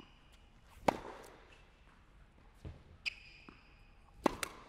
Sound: ball bouncing

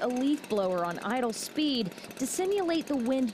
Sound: nat - leafblower

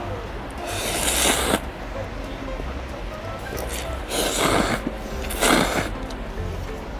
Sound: slurping noodles X 8

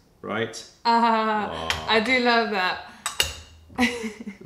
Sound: laughter

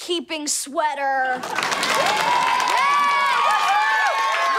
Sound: cheering

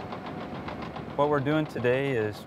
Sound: machine drowns out voices

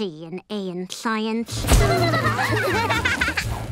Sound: laughing

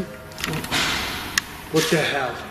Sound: bang

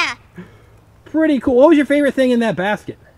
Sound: voiceover

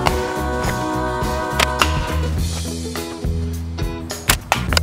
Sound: thwack; thwack

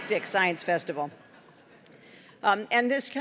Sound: laughter

